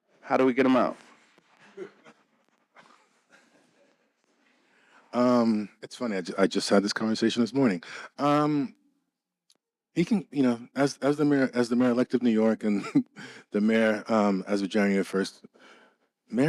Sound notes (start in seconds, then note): 1.8 audience laughing